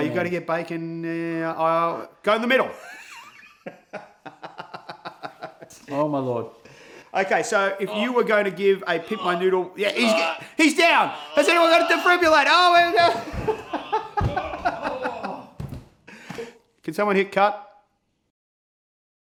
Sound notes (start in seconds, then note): 2.8 laughs; 8.8 urgh; 14.3 laughs